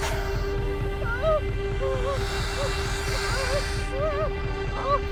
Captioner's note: spider hissing; Shauna crying